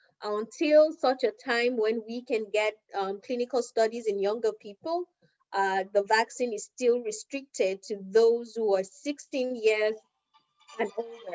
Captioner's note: cell phone ringing